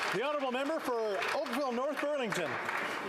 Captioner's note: some Applause